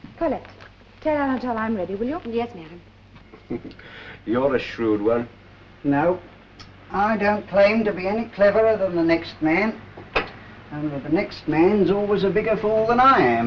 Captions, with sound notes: - Colette, tell Anatole I'm ready, will you? - Yes, madam. (Laughs) You're a shrewd one. No, I don't claim to be any cleverer than the next man, only the next man's always a bigger fool than I am.